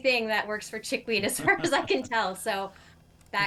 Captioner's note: laughing